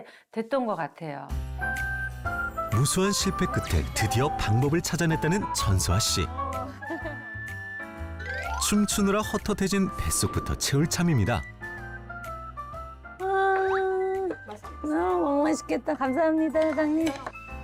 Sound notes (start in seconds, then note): 1.7 voiceover